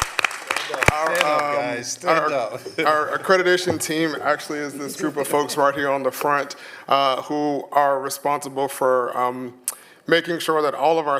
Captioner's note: applause